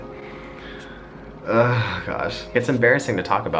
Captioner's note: groans